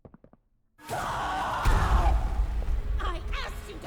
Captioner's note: screaming